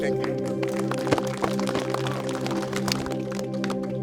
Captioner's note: clapping